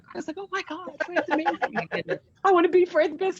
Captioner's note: laughs